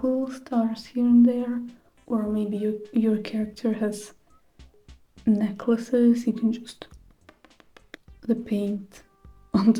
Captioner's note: pop pop pop